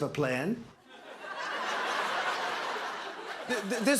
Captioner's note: laughter